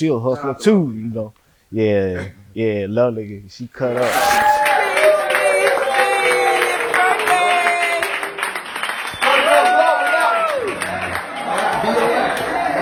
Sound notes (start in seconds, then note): 9.1 crowd cheering